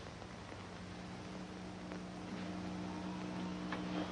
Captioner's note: radio hums